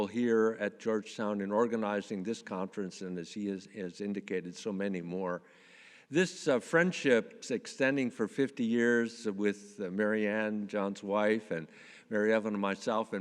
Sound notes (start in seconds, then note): none